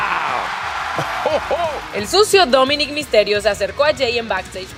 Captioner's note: laugh